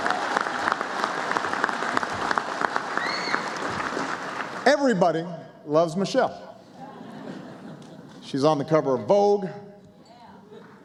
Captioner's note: applause